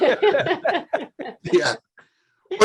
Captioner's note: laughing